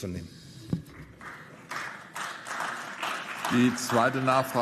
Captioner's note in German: Beifall